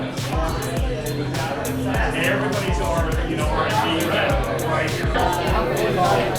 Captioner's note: bar chattering